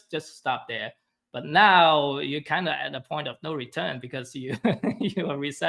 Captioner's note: chuckles